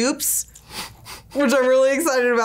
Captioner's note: laughs softly